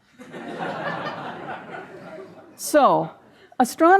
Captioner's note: audience laughing